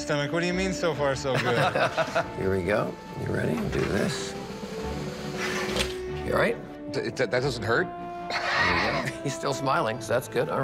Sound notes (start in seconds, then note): 1.3 laughter; 8.6 chuckles